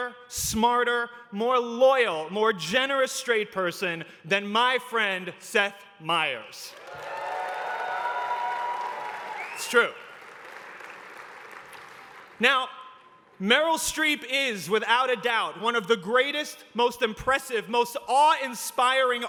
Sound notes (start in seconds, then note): 6.7 cheering